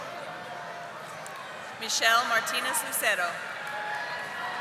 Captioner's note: audience applauding